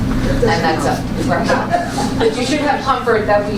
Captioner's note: laughter